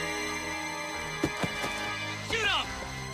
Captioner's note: man yelling; body thudding